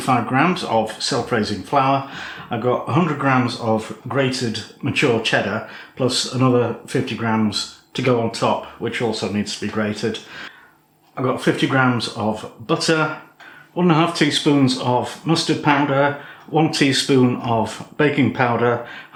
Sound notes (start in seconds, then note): none